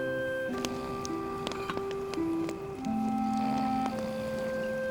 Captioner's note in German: Soldat schnarcht